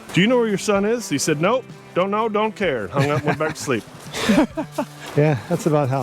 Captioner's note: laugher